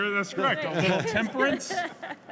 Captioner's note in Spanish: Risas